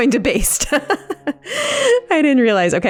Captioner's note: laughing